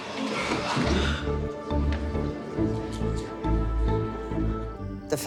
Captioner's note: crowd gasps; dramatic music